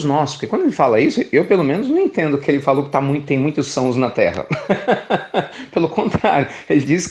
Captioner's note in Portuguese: Risos